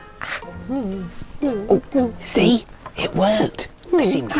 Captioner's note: whimpers